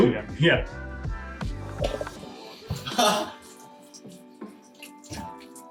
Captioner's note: laughing